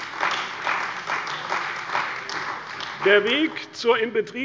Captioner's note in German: Beifall bei der CDU und dem BÜNDNIS 90/DIE GRÜNEN